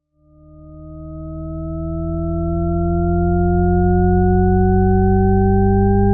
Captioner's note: monotone sounds, increasing in pitch